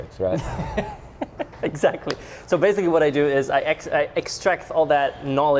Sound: laughs

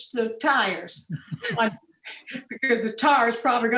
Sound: all laughing

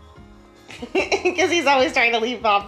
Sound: chuckling

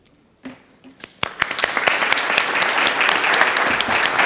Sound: audience claps

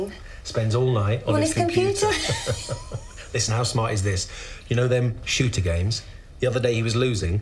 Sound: laughs

